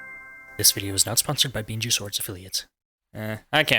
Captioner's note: whispered